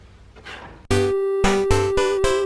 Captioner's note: blow